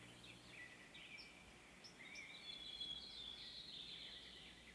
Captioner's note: birds singing